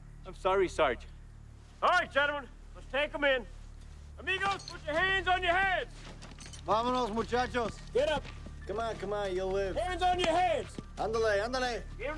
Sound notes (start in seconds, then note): 6.9 Henderson speaks in Spanish; 10.9 Henderson speaks Spanish